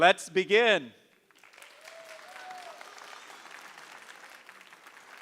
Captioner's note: audience applauding